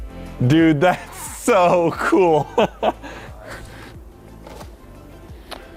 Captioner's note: laughs